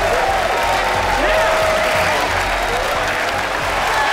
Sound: cheering, applauding

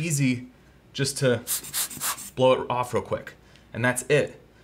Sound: air blowing

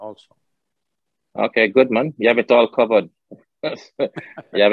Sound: Sadhguru laughs

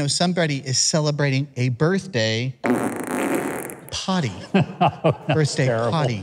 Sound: deck farts

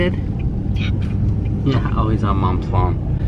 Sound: whispering

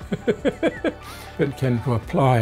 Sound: laughs

